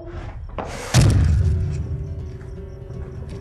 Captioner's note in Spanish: sonido de disparo